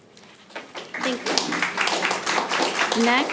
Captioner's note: audience applauding